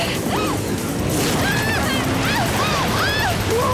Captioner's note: scream